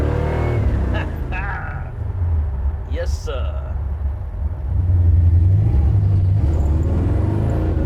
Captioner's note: laughs